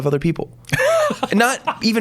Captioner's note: laughs